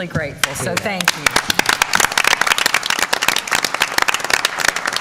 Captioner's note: applause